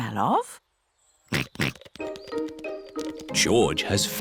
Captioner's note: snorts